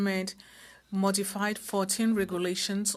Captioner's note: speaking French